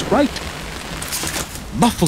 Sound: umbrella closing

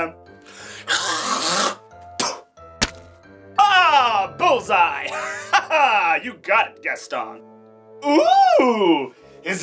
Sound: spits

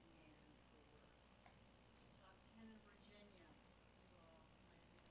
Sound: speaking faintly

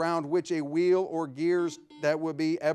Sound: buzzer ringing

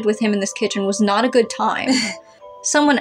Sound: laugh

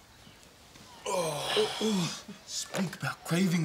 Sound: sighs

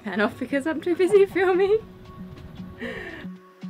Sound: laughs

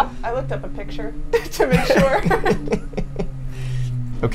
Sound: laughs

